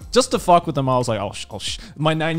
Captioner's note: foreign language